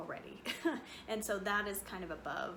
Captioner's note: chuckles